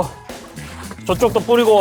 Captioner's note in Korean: 촤악